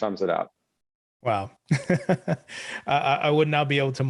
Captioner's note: laughs